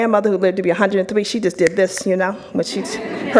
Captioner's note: snaps